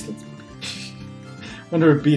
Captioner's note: laughs softly